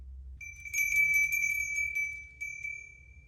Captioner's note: bell ringing